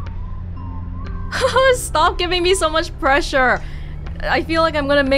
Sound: chuckles

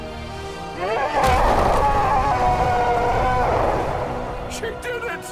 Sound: Keyleth roars

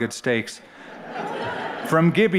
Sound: laughter

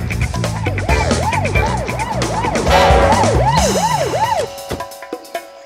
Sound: sirens wailing

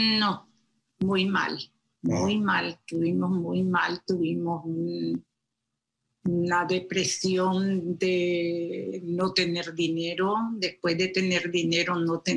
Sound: speaking foreign language

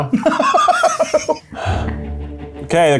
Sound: laughing; exhales

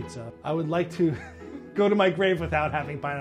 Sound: chuckles

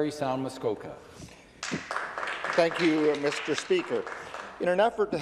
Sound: some Applause

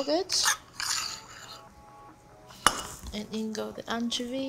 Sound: spoon scraping

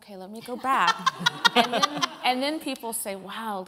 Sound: laughter

